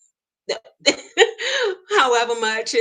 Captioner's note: laughs